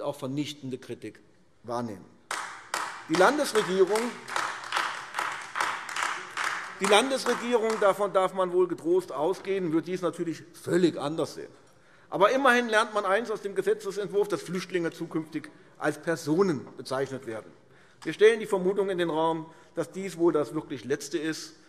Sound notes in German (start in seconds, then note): 2.2 Beifall AfD